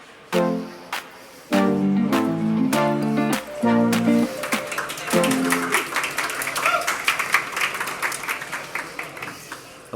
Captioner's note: applause